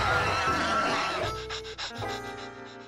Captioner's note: panting